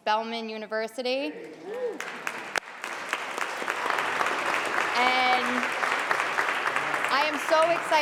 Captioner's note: applause